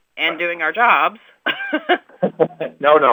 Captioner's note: laughter